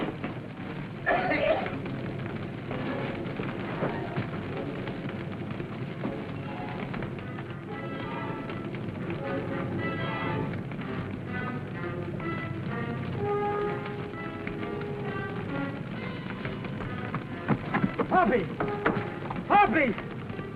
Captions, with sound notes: [ HOPPY COUGHS ] [ TENSE MUSIC ] Hoppy! Hoppy!